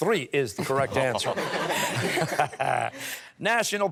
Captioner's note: laughter